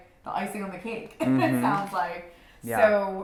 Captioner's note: laughs